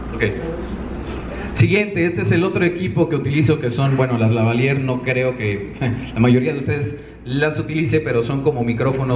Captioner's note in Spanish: risita